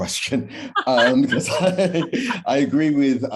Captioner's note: laughter